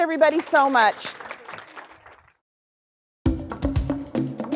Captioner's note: clapping; upbeat music